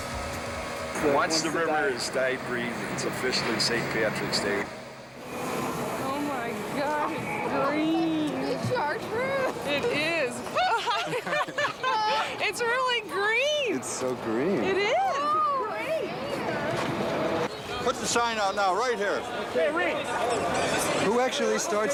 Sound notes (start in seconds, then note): 0.2 boat motor; 10.4 laughing